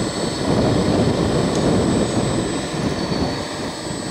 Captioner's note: roaring thunder